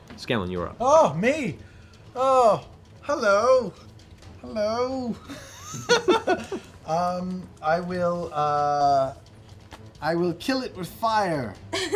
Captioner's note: laughs